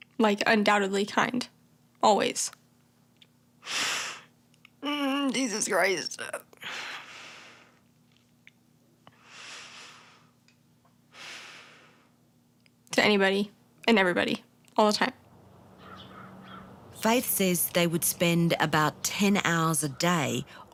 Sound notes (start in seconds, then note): 3.7 inhales; 9.1 breathes deeply; 15.2 birds chirping